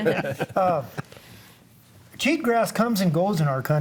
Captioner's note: group laughs